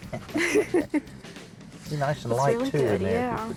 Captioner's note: both laugh